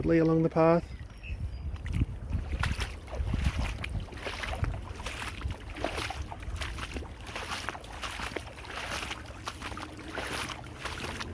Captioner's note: water flowing